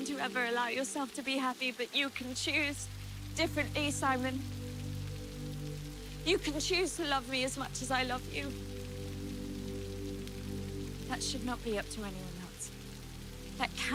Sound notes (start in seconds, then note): 4.6 gentle music; 4.6 rain spattering; 9.0 gentle music; 9.0 rain spattering